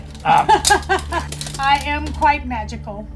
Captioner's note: laughs